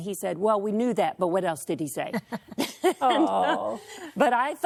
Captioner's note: laughter